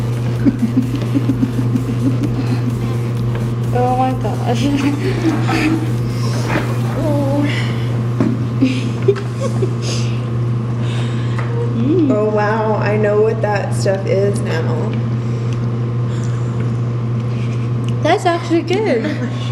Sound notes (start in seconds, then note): 0.1 chuckling; 11.5 laughter